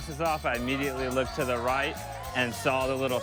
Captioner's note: cheering